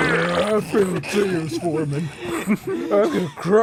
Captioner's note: groans; stifled giggling